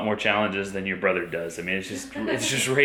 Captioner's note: laughing